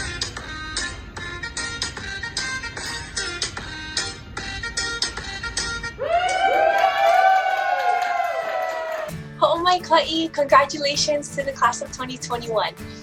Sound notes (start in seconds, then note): 6.0 cheering; 8.8 hawaiian speech